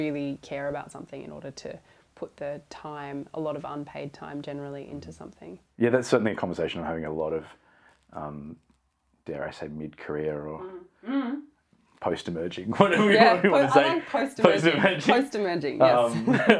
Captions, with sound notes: care about something in order to put the time - a lot of unpaid time generally - into something. Yeah that's certainly a conversation I'm having a lot of - dare I say - mid-career or post emerging (laughs)